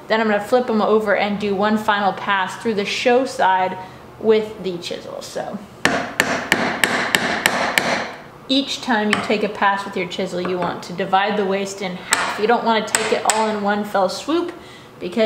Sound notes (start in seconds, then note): 6.2 banging